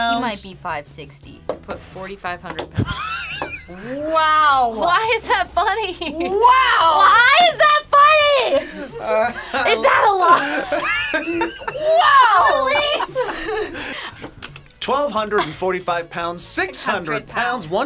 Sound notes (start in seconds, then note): 2.8 laughs; 13.9 both laugh